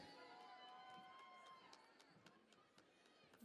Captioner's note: cheering and Applause